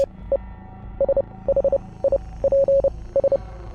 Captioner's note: signals beep